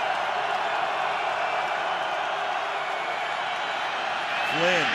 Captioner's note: cheering